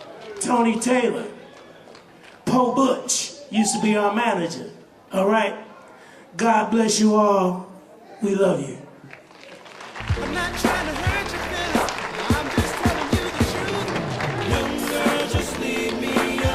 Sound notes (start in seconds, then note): 9.0 applause